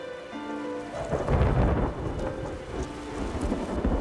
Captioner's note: somber music; thunder rumbling; wind blowing